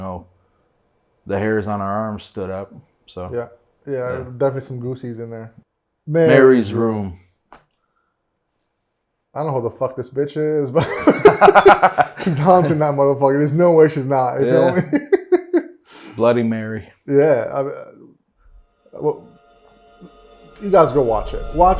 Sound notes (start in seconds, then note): 10.8 laughing; 14.4 laughing